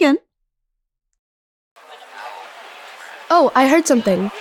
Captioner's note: general chatter